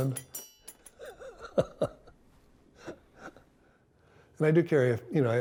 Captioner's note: laughing